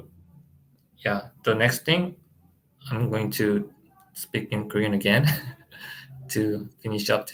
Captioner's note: laughs